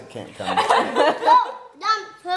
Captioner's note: laughing